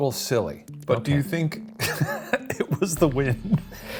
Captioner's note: laughs; both laugh